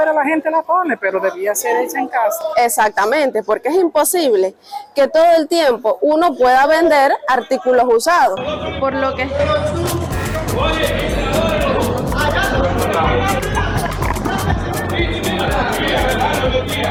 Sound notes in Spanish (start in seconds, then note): 11.7 personas hablando alto